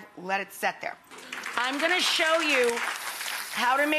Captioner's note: audience clapping